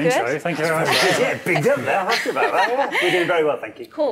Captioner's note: laughing